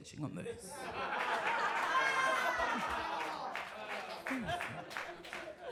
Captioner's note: audience laughs and claps